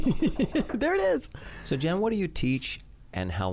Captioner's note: laughs